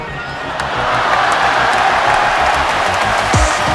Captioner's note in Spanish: Aplausos y gritos